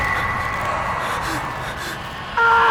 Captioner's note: gasping; screams